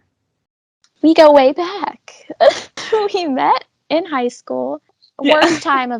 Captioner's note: laughs